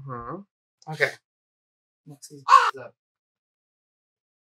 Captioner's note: caw